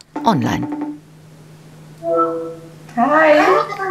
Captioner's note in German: Freizeichen, Signalton